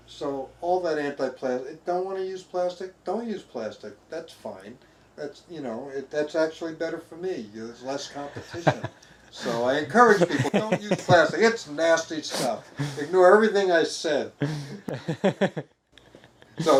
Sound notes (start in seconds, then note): 10.0 chuckling; 14.4 laughing